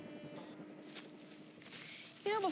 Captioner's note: footsteps